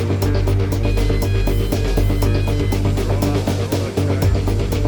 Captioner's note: loading vehicle beeping